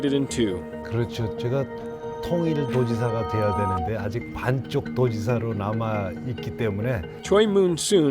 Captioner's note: non-english speech